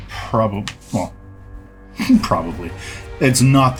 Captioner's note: chuckles